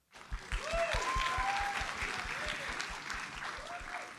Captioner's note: audience applauds